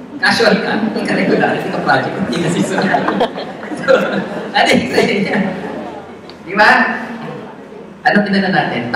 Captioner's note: audience laughs